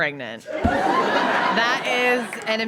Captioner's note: audience laughs heartily